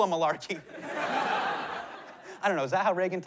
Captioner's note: laughter